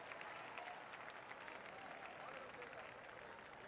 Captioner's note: applause